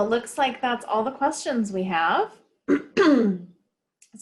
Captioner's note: clears throat